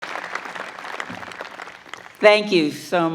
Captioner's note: crowd applauding